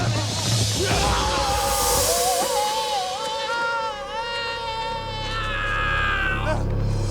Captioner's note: man screams